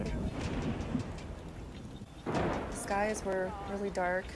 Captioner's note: thunder crashes